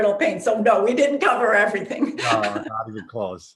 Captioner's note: laughs